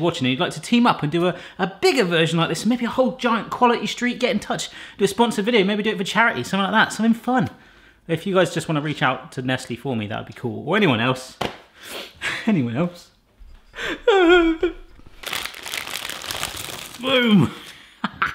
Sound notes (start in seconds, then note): 14.0 crying